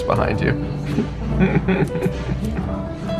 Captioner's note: chuckling